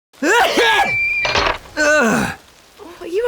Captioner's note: sneeze